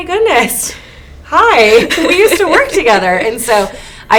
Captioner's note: laughs